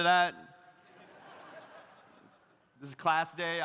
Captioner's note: audience laughs